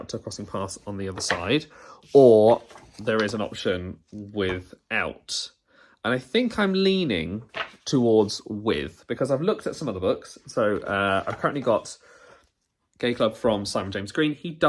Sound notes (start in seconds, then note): none